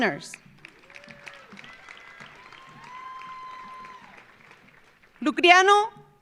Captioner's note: audience applauding; audience cheering